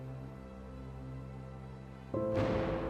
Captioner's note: bombs exploding